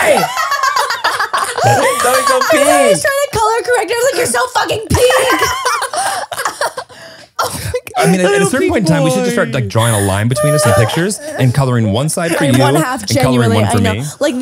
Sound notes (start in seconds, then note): 0.0 everyone laughs; 5.0 everyone laughs